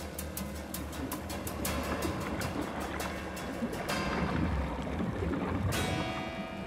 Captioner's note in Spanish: sonido del ácido al hervir